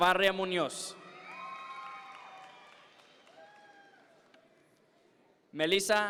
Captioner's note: audience members cheer